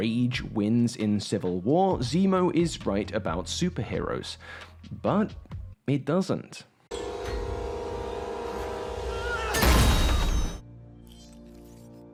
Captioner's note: clip - *grunt* *gunshot